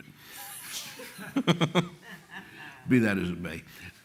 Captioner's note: laughter